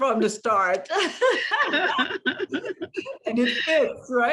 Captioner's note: laughter